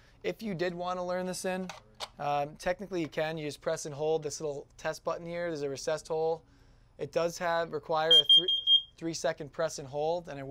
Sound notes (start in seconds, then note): 8.1 loud beeping